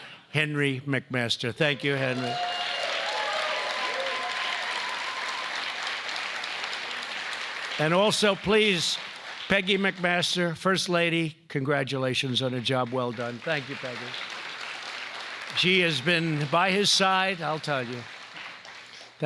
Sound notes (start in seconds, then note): 1.9 applause